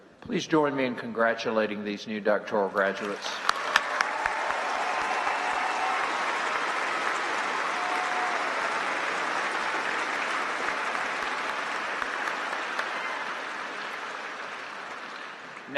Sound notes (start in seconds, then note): 2.8 applause